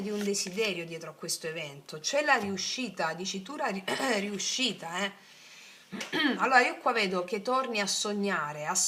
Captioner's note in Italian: schiarire la voce